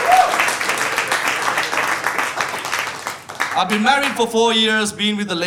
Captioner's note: audience applauding